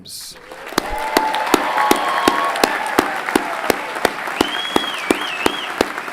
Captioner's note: everyone clapping and cheering